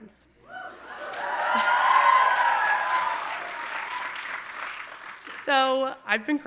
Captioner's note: audience cheering and applauding